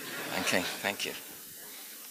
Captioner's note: laughter